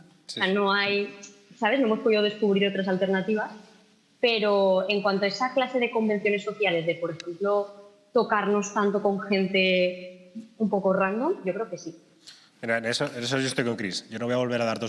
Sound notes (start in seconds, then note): none